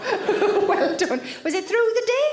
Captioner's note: Sarah laughs